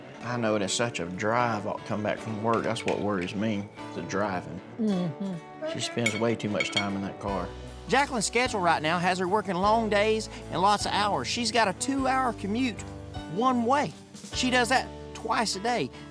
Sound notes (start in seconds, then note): none